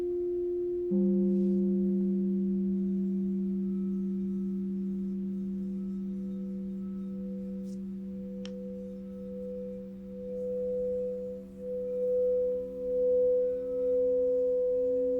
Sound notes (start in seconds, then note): 1.0 gong rings; 6.6 relaxing bell tones